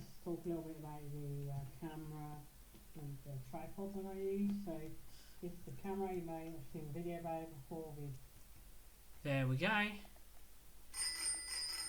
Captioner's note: bell